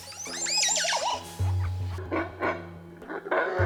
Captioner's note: monkey calls